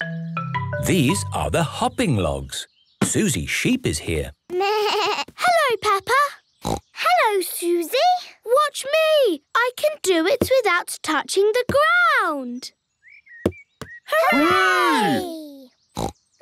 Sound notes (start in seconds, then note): 6.6 snorts; 16.0 snorts